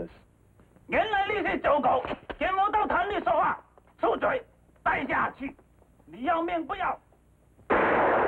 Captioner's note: yelling in Chinese; gunshot rings out